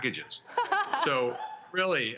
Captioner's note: laughs